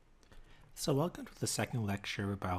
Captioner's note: voiceover